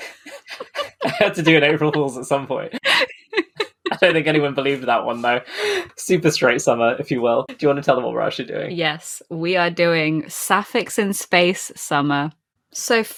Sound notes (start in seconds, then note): 0.0 laughing; 1.1 laughs; 4.1 laughs; 4.5 laughing